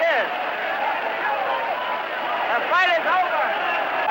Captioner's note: crowd exclaiming continues